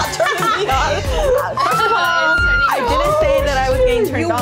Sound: laughing; squealing

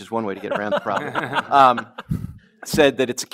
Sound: laughs

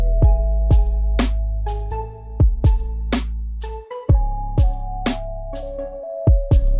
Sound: none

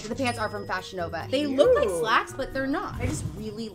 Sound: lady exclaims

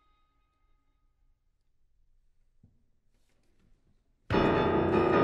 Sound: music Stops

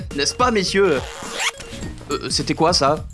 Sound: zipper noise

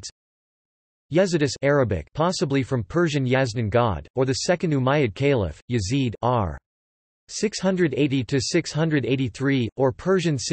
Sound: Arabic

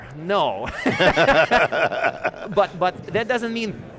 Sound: laughing

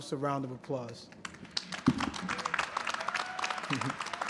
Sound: applause

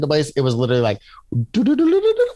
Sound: imitating elevating sound

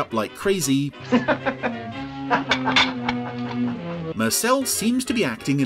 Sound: Diamond laughs loudly; plates clang

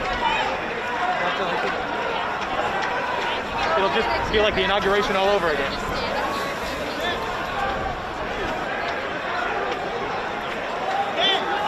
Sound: crowd noise

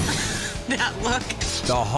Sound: laugh

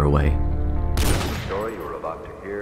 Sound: gunshot

